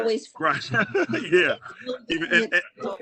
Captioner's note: laughs